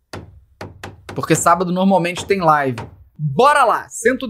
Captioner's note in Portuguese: barulho de martelo; barulho de martelo